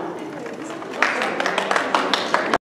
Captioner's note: applause